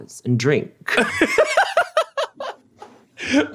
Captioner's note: laughs